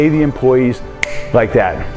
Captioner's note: finger snap